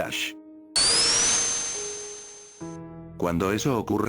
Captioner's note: spin-dash sound playing